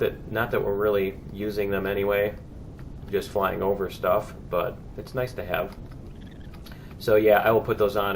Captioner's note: plant monsters chirping